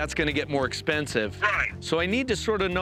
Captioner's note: on phone